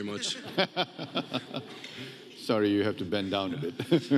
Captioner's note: all laughing